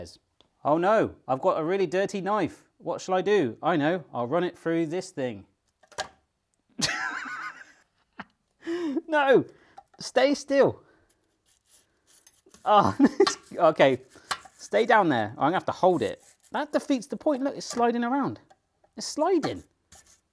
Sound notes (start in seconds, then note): 6.0 thuds; 6.9 laughing; 12.8 laughing; 13.9 knife clacking on sink